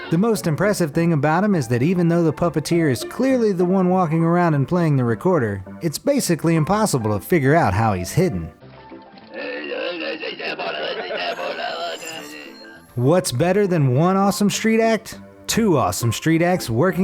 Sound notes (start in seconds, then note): 9.1 gravelly grunts